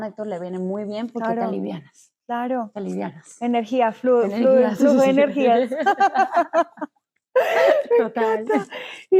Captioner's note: laughs